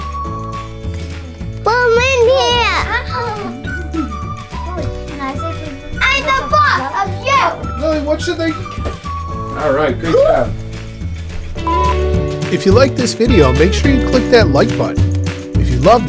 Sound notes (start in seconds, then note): 2.9 laughs